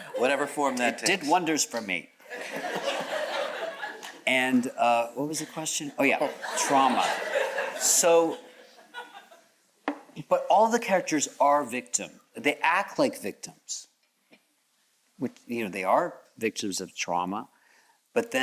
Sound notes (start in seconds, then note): 2.3 audience chuckles; 8.1 audience chuckles